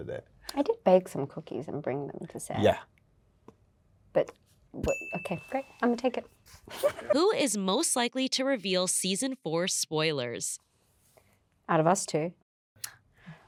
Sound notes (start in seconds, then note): 4.8 bell dings